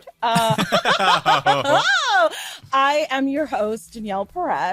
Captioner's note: laughing